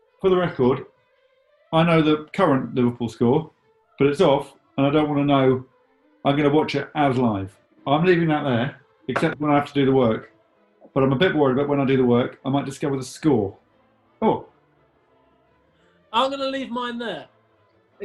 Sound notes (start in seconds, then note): none